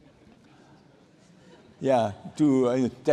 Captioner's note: laughter